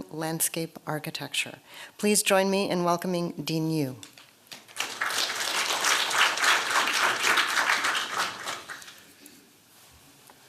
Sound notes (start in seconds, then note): 4.5 applause